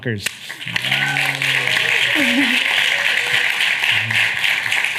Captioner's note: audience applauding